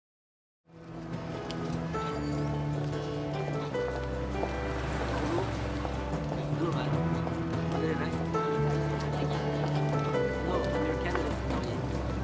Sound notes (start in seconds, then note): 1.1 heels clack; 1.1 soft upbeat music; 7.2 people chatter indistinctly